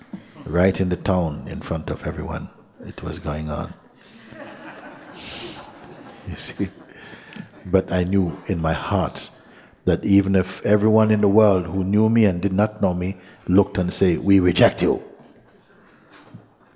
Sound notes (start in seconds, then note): 3.9 laughter